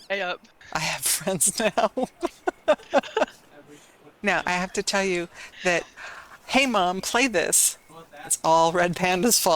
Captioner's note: laughter